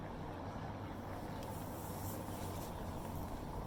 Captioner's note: distant chatter